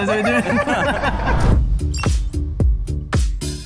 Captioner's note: laughing